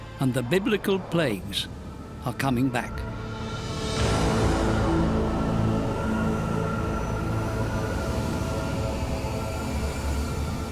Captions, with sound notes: And the Biblical plagues -are coming back. -[wind howling] [ominous music] [howling wind]